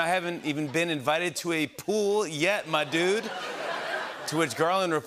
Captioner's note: laughter